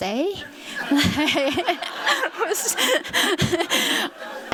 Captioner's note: laughter